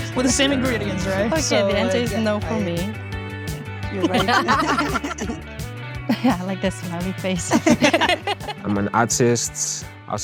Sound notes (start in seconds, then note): 4.0 all laugh; 7.4 laughs